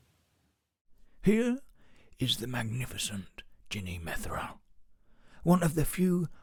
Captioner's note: David Attenborough impression